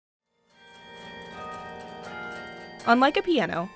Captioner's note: bells chiming